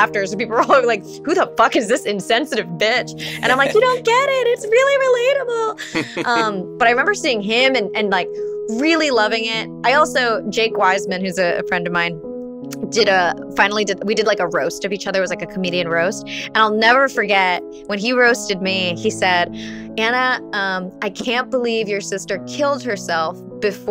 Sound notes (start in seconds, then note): 3.3 laughs; 5.8 laughs